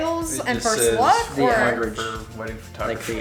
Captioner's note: male Voice